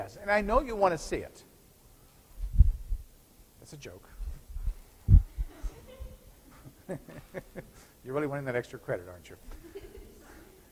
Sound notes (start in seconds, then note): 5.3 scattered chuckles